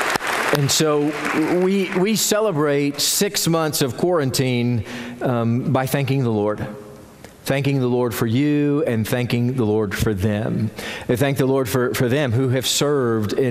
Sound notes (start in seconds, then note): 0.0 applause